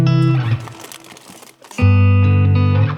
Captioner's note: relaxed guitar music; light rustling; relaxed guitar music